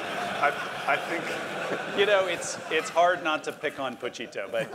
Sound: laugh

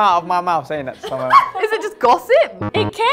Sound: laughs; buzzer buzzes

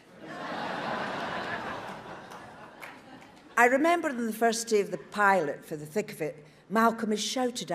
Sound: audience laughs

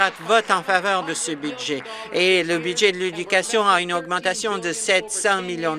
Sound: applause

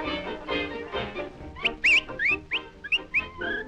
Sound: whistling

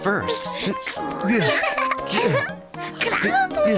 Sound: laughter

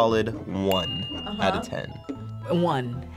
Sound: bell dinging

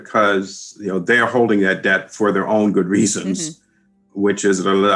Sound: laughs

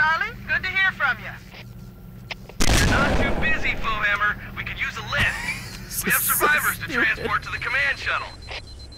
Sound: laughs

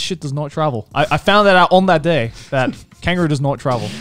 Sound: laughing

